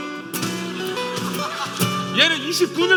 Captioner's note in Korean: 웃음